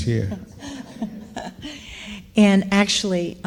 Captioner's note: laughing